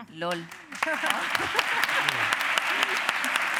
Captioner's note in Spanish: Aplausos